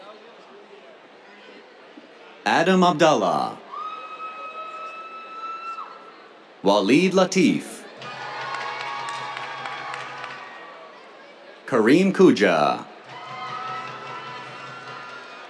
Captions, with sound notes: Adam Abdalla. [CHEERS] Waleed Latif. [CHEERS, DRUMMING] Kareem Koujah. [CHEERS, DRUMMING]